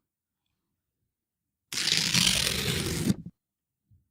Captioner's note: ripping